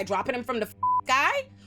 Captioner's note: beep